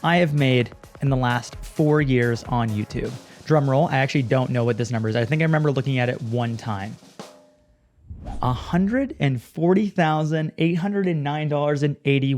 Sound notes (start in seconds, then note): 4.1 drum rolls; 8.0 wind swooshes